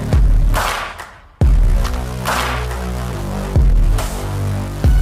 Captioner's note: Tepuk tangan